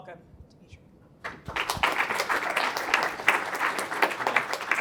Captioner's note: applause